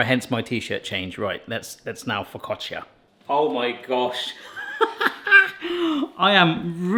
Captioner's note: laughs